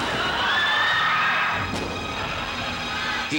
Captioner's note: crowd screaming